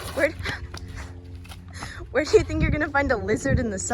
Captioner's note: laughs